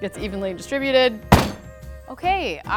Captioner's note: pan thuds